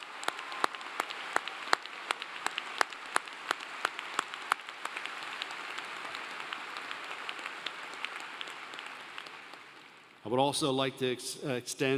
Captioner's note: applause